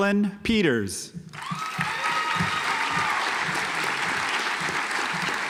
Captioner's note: audience applauds